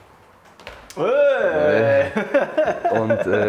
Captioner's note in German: Begeisterter Ruf, Lachen